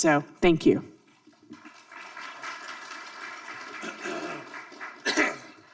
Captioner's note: audience applauding; coughing